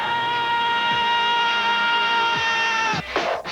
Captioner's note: yelling